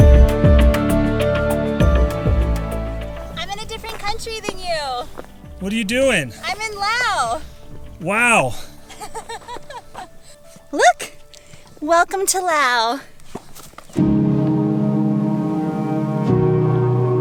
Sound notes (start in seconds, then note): 8.8 laughing; 13.7 laidback Music